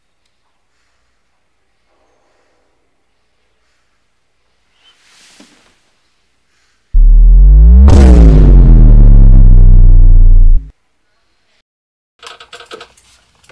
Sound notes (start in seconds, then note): 6.9 aggressive dramatic vine boom